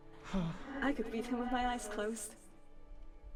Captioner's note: sigh of relief